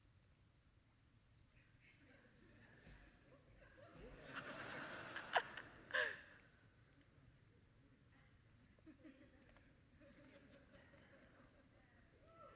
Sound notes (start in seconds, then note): 3.8 audience laughing